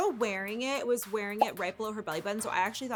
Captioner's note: notification popping